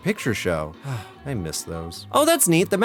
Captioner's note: sigh